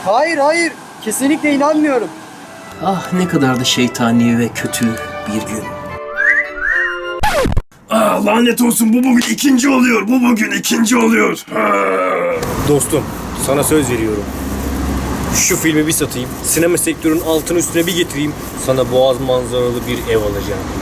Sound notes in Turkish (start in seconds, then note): 6.1 Islık çalma sesi